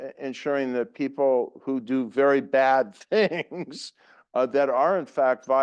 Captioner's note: laugh